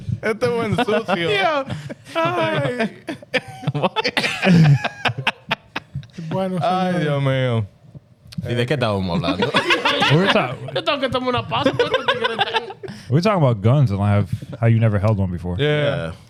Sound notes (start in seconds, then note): 0.0 laughing; 0.0 speaking In Foreign Language; 3.7 laughing; 8.3 speaking In Foreign Language; 9.1 laughing; 10.7 speaking In Foreign Language